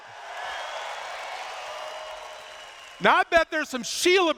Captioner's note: cheers